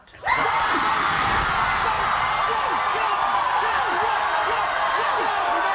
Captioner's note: crowd roaring drowns out